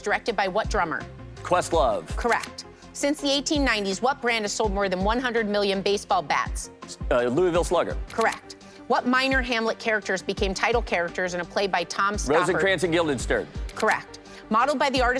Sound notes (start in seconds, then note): none